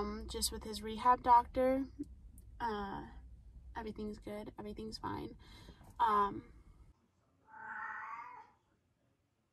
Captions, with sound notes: just with his rehab doctor. Everything's good, everything's fine. (meows)